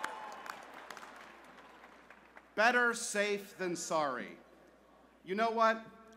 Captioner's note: cheers